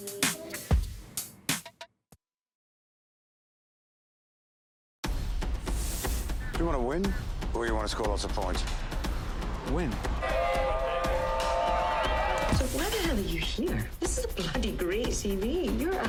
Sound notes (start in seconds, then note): 10.1 crowd cheering